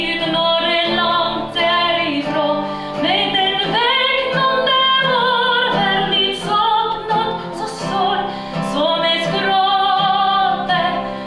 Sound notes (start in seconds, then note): none